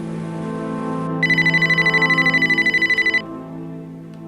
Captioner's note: phone ringing